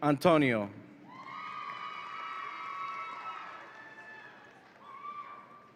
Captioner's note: audience applauds and cheers